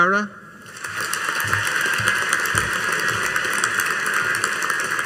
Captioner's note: audience applauding